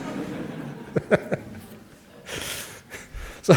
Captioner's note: laughs